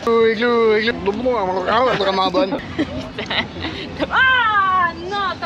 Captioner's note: laughing